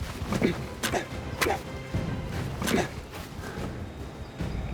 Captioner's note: grunts